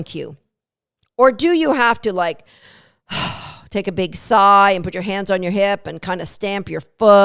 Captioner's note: sigh